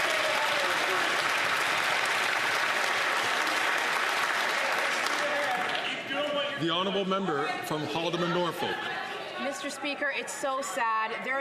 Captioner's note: some Applause